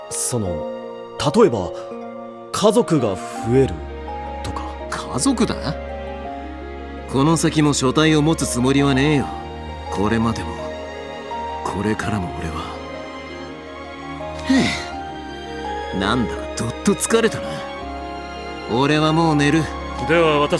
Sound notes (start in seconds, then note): 14.4 sigh